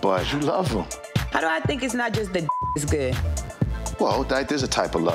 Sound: beep

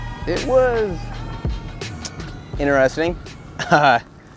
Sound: laughs

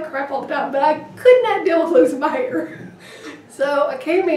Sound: laughing

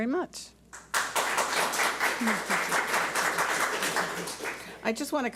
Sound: audience applauds

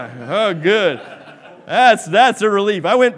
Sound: laughing

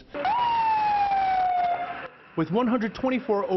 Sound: siren wailing

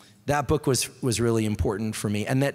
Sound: none

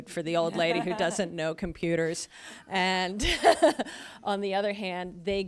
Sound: laughs

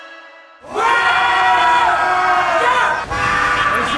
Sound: yelling

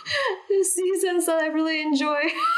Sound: laughing

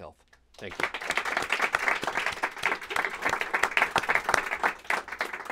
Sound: applause

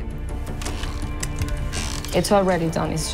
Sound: kiss smacks

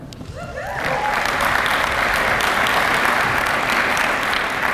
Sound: applause

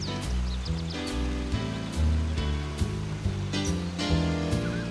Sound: birds chirping

